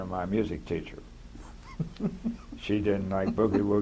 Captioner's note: laughter